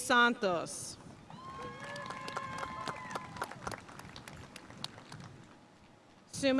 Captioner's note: audience cheering and applauding